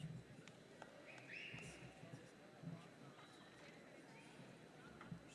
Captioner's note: audience member whistles